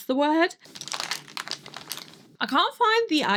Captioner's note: more clanking from my makeup bag